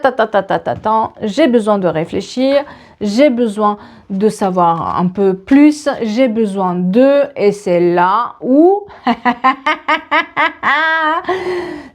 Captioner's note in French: rires